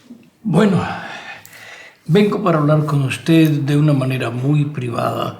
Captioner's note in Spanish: suspiro